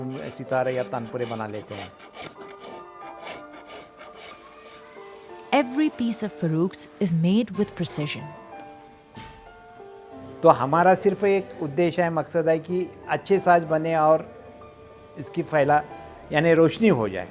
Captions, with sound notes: Every piece of Farukh's is made with precision. (speaking foreign language)